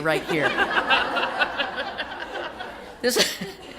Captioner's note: laughter